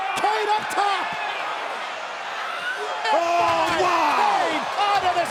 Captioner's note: crowd cheering